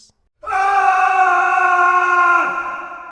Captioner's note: screams in agony